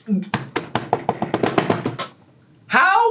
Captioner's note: hands slamming